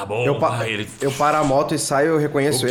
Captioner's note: shuuu